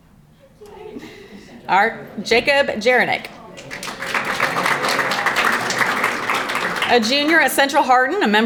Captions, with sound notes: Jacob Jiranek, (audience applauding) a junior at Central Hardin,